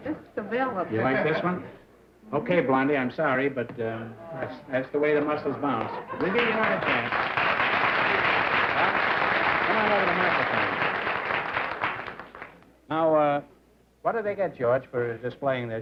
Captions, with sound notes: This is developed. You like this one? OK, blondie, I'm sorry, but, um, that's the way the muscles bounce. We'll give you another chance. [APPLAUSE] Come on over to the microphone. Now, uh, what do they get, George, for displaying